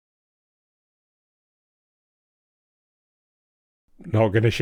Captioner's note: pause